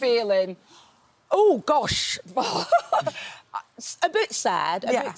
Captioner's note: chuckles